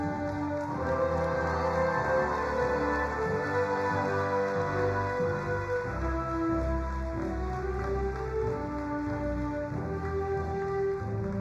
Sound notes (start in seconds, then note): 0.2 ceremonious music; 3.0 crowd cheering